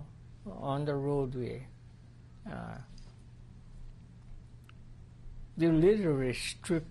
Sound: pauses for 3 seconds

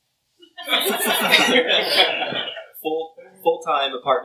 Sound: laughter

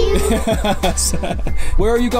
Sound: laughing

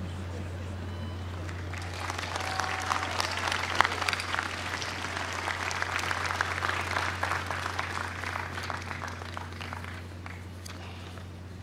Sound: applause

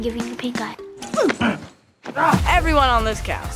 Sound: both grunt

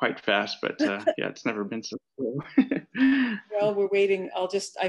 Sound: laughs

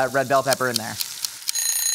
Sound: timer Ticking; timer Ringing

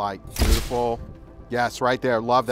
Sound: shutter snaps

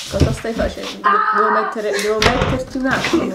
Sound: screams

